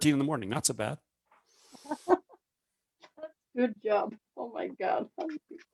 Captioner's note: laughs